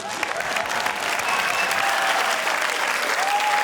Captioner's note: cheering, applause